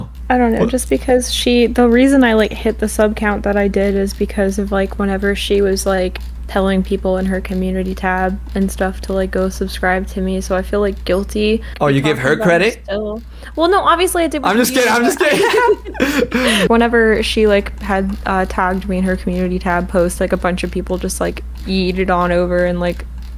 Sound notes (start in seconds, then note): 14.5 laughs